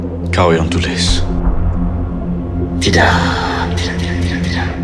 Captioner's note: speaking in foreign language